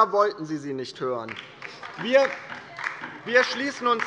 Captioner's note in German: Beifall bei der LINKEN